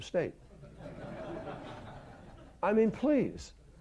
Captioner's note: laughter